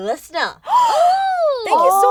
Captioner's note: gasp